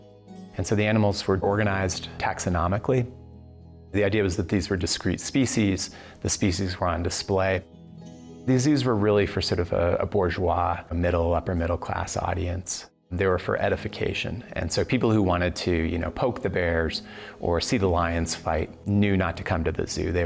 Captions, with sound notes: And so the animals were organized taxonomically, the idea was that these were discrete species, the species were on display. These were really for sort of (speaks foreign language), a middle, upper middle-class audience. There were for edification and so people who wanted to poke the bears or see the lions fight knew not to come to the zoo,